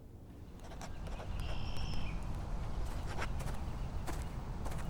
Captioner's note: pencil scratching